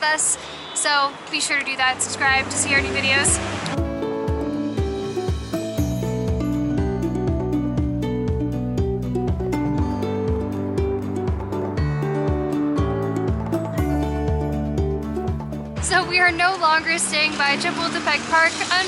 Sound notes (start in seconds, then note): none